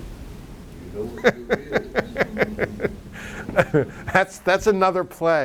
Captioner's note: laughs